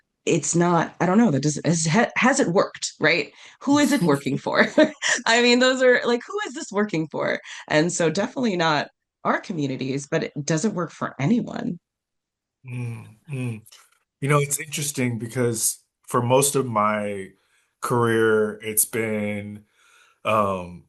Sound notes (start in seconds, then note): 4.3 laugh; 12.6 nods and hums in agreement